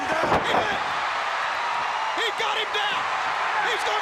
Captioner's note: crowd cheers